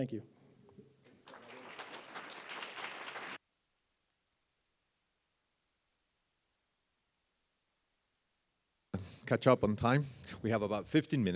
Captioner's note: applause